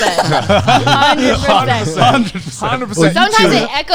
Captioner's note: all laughing; laughing